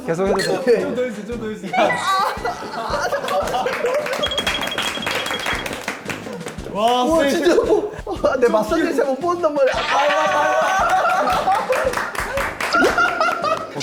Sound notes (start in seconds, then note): 5.6 the audience cheers